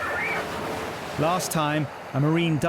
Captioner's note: blowhole screeches